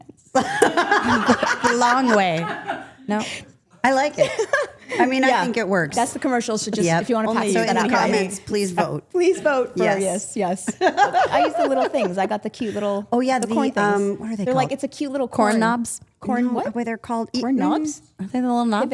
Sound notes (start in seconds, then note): 0.3 women laughing; 10.6 women laughing